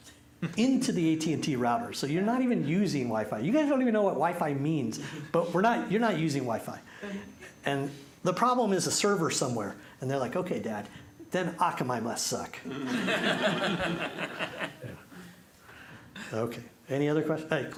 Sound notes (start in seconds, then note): 12.7 laughter